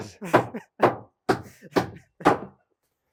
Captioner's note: speaker laughing; hammer knocking